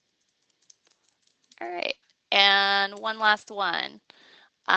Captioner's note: fast typing